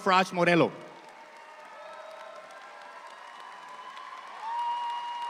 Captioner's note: audience applauding